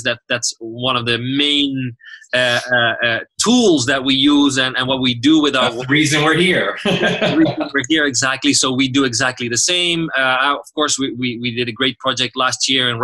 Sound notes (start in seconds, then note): 5.5 laughs